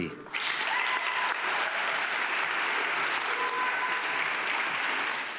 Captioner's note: audience clapping